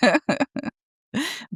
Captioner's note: laughs